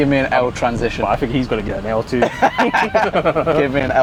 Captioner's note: laughing